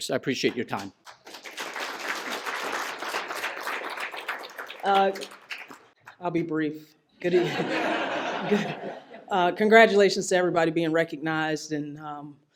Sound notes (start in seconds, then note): 0.3 applause; 7.2 laughter